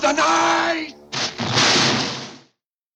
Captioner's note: gunshot